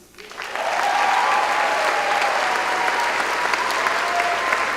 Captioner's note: applause